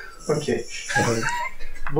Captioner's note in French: Rires